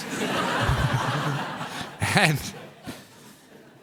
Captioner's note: audience laughed